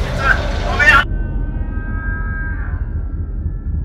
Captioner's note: screaming